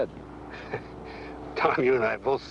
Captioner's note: chuckles